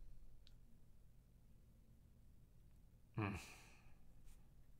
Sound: grunts

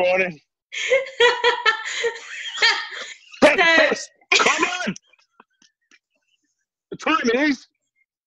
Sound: laughter

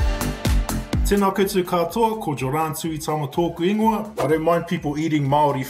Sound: speaking in Maori

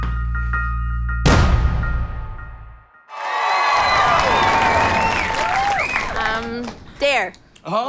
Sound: gunshot

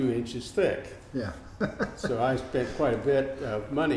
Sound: laughs

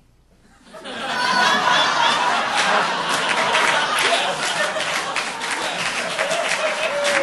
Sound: audience laughing

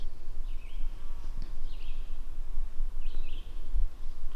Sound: birds chirping

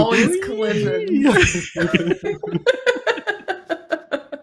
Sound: laughter

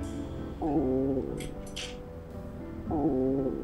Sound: growling

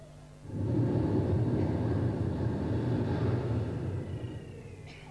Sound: shri mataji blows into the microphone

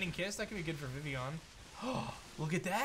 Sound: gasps

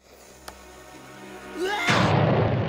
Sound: Mugman screaming

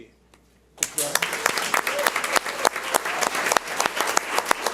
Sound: audience applauds

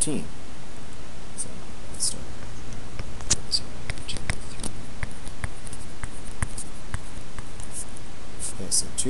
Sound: typing

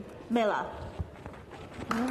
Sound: applause

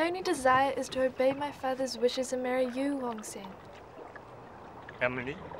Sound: none

